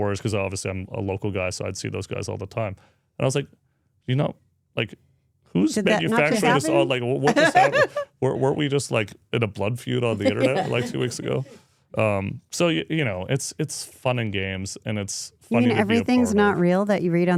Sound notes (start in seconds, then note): 7.0 speaker laughs